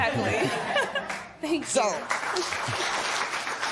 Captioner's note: laughter; applause